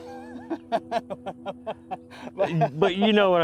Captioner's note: laughing cheerfully